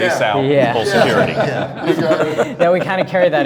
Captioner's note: men laughing